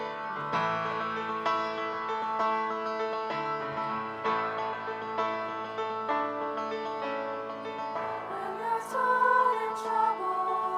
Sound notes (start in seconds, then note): none